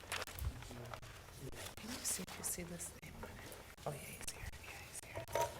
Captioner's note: board chatting quietly